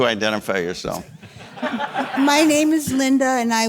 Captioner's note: audience laughing